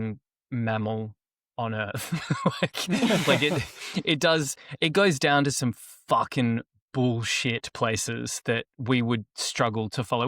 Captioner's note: laughter